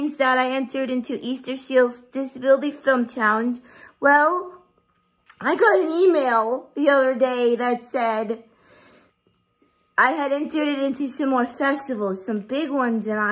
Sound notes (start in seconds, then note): none